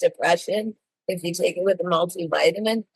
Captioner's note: none